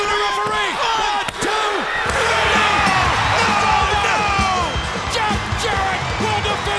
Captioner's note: crowd cheering